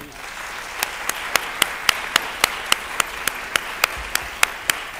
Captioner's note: applause